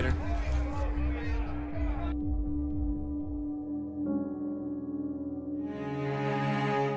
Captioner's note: people chattering; dramatic music